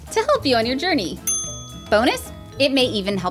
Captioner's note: ding